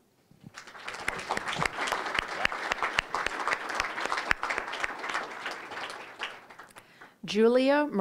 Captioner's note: applause